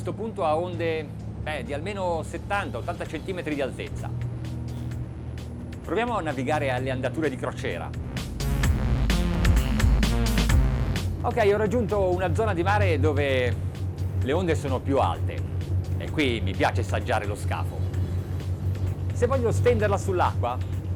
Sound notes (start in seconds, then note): 4.4 funky music; 8.3 funky music; 11.3 man speaks in foreign language